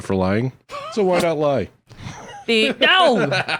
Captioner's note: laughs